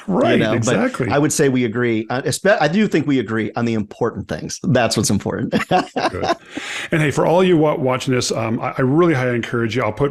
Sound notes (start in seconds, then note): 5.6 laughs